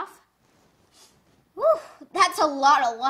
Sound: sniffs

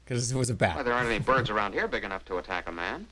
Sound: chuckles

